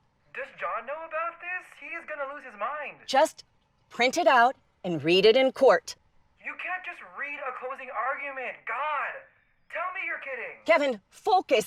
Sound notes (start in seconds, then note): none